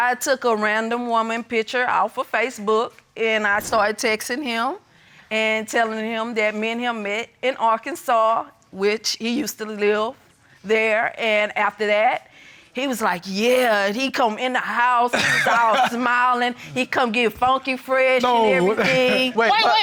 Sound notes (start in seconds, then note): 15.1 laughing